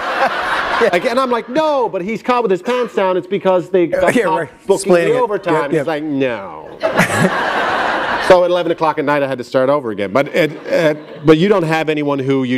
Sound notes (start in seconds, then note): 6.6 laughter